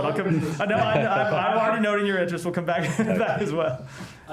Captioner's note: laughter